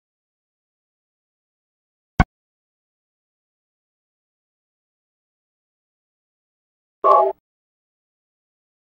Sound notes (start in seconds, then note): 2.9 video game menu sounds